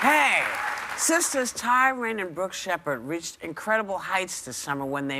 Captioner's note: applause